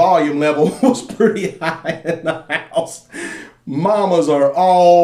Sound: laughs

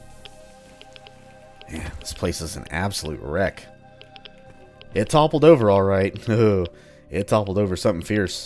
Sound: chuckles

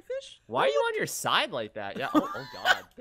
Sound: laughs

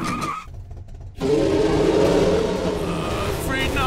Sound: tires screeching; roaring

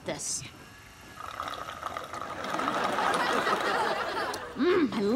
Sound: slurping

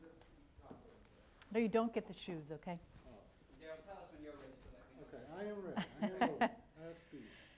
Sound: laughs

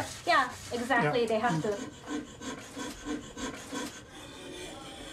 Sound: tools scraping

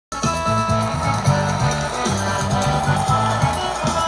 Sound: cheering

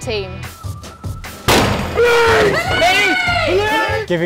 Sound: shouting

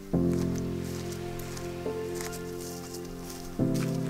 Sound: footsteps crunching

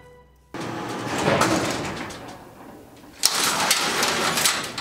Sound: metal clanking

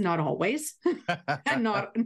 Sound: laughter

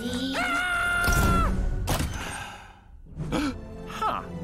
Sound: screaming; sighing, gasping

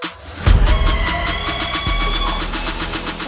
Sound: screaming

